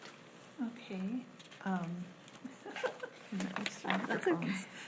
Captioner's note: laughs